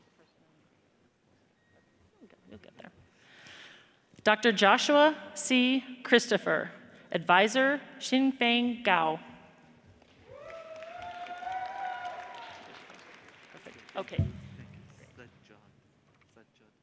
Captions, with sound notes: - Dr. Joshua C. Christopher, adviser Xinfeng Gao. (audience cheers and applauds) Okay.